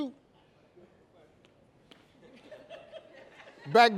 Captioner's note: laughter